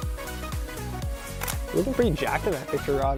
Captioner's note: click